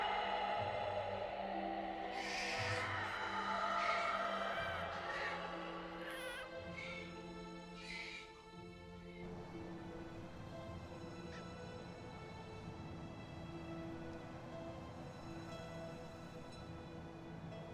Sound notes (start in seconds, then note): 6.4 baby crying; 9.0 soft dramatic music